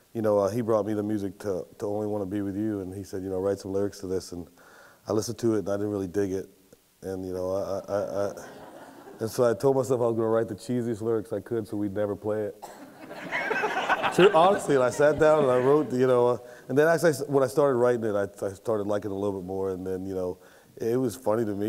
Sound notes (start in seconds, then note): 8.3 audience laughs; 12.7 laughter